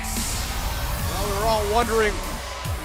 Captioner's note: crowd cheering